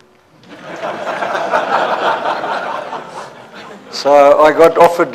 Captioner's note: laughter